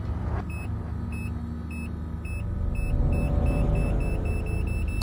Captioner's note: machine beeps